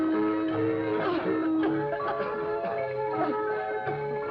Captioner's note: both coughing